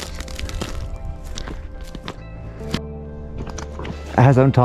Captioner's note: footsteps crunching